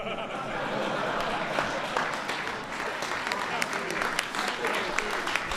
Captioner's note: laughter and applause